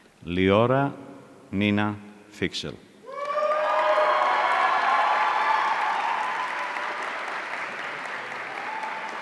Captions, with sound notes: Liora Nina Fiksel. (audience cheering)